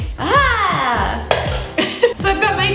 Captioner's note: laughs